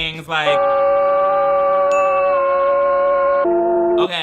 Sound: people yelling

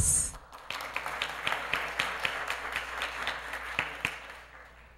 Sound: applause

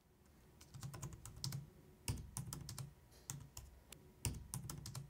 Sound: keyboard clicking

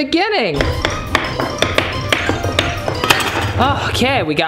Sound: knife chopping

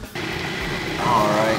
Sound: processor humming

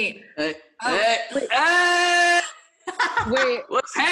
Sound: screaming; laughs

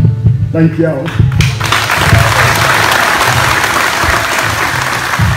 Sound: applause

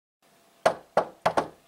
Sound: knocking

